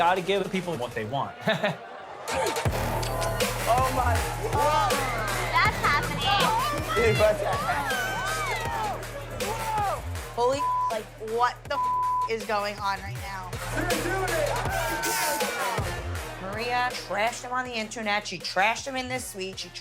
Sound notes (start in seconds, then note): 1.3 chuckles; 2.5 upbeat music; 15.4 upbeat music